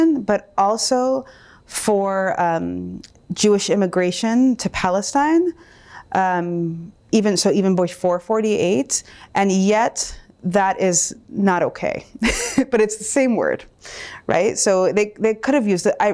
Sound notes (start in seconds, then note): 12.0 laughs